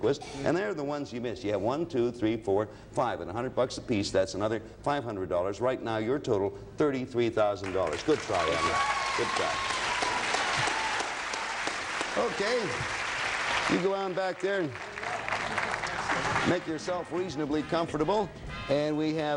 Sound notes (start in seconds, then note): 8.1 audience cheering